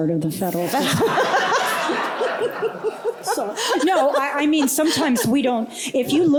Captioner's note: laughter